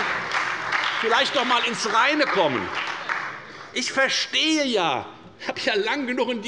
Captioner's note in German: Beifall bei der FDP und bei Abgeordneten der SPD